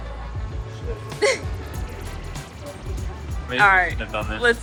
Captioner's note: laughs